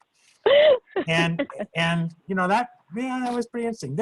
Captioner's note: laughs